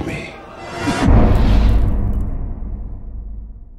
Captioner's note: impact